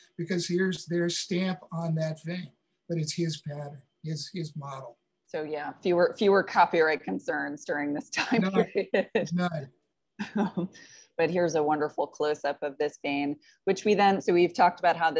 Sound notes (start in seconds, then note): 8.2 chuckling